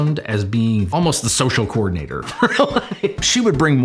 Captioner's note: laughing